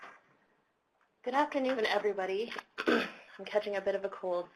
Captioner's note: clears throat